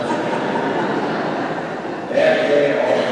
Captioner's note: congregation laughing